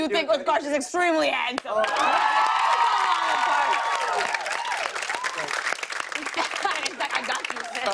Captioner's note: cheers and applause